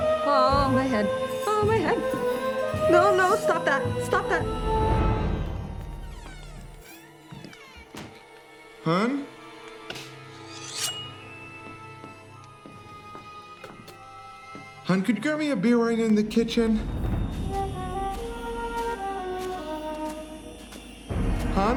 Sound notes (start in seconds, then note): 5.8 door creaks; 7.8 door closes; 10.4 knife screeches on cutting board; 12.0 footsteps tap; 17.3 tense, ritualistic music